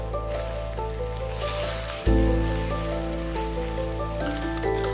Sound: sizzling

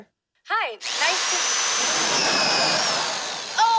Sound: drilling

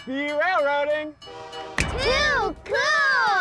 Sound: loud short bang

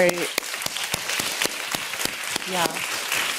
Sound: applause

